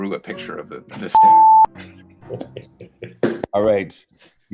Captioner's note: beep